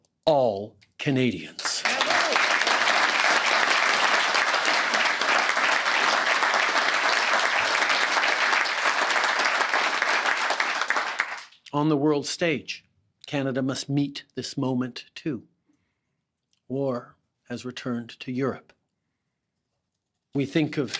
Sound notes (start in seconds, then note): 4.9 applause